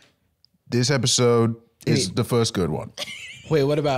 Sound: laughing

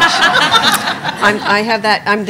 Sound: laughing

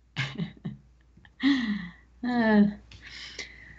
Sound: laughs

